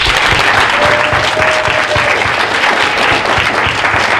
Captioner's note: audience applauding